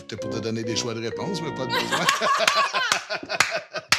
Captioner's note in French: rires